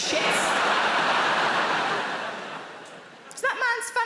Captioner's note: audience laughing